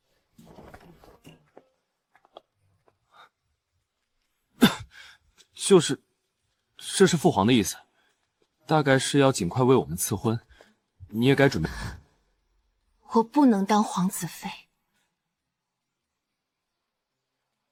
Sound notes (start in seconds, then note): 4.6 clears throat